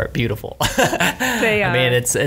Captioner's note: laughs